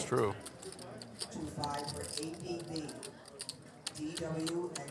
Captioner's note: poker chips clacking